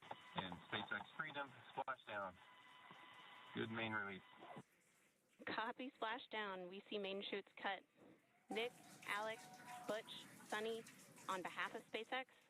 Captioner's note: applause